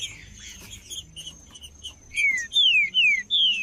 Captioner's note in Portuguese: trinca ferro cantando